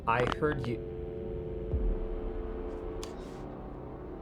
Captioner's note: phone droning